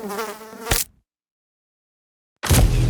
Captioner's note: fly buzzing; fly swatting; ominous music